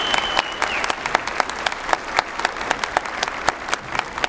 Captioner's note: whistles